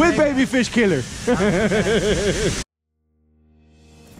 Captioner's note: laughing